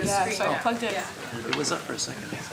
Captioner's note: indistinct conversation